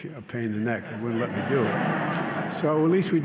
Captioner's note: laughter